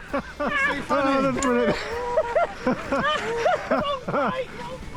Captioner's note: laughter